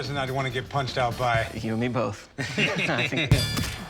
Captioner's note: both laugh